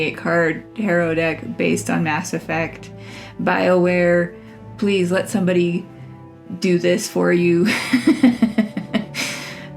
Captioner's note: laugh